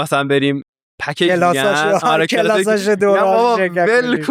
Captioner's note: laughs